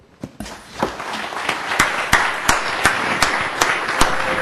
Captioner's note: applause